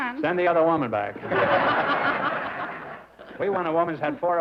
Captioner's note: laughter